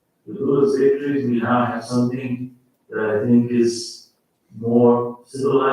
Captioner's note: faintly speaking